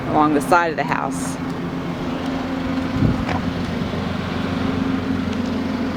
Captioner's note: lawn mower engine roars